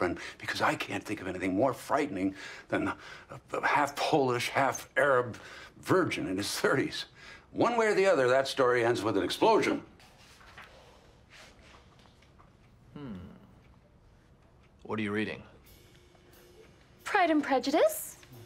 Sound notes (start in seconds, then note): 14.7 Don Draper voice